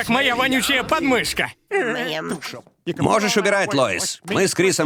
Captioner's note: lauaughs